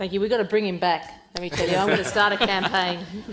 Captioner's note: panel and audience laughing